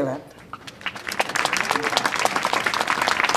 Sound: applause

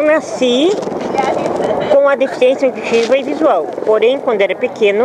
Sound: speaking Portuguese

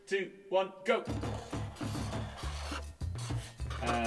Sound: markers squeaking annoyingly

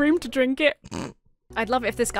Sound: snorts

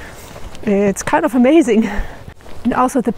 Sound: laughs

